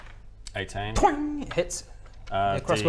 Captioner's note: twang!